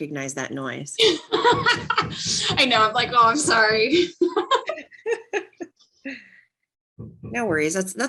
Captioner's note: laughs